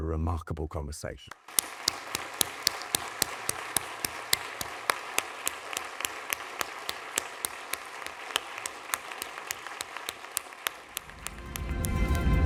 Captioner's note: applause